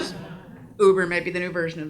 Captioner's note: audience laughs